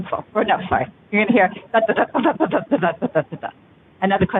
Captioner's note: makes thumping noise